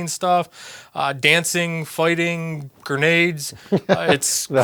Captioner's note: laughs